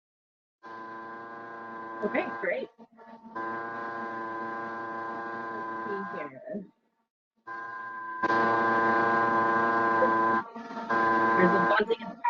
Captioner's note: buzzing noise